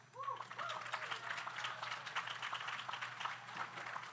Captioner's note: audience applauds